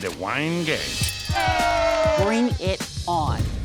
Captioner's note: cheering